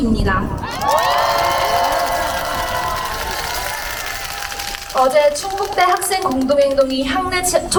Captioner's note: applause